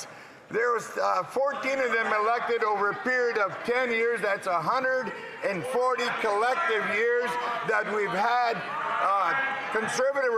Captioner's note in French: voix de l'interprète